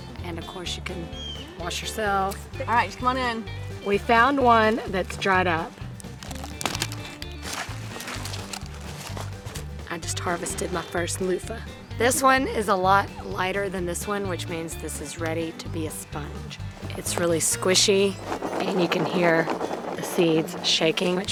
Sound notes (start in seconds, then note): 6.0 clippers cutting branch; 16.9 seeds rumbling